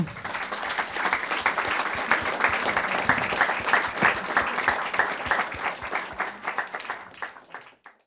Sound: applause

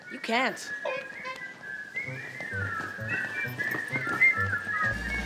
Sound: whistling

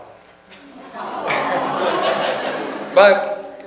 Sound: audience sympathizes

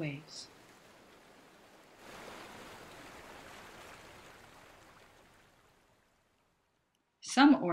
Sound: wave sounds

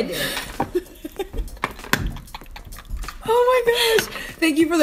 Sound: laughter

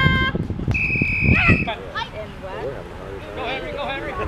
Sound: whistle blowing

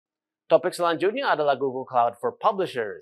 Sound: non-english speech

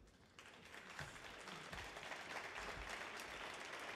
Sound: audience applauds

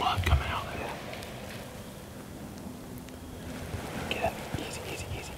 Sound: whispering; whispering

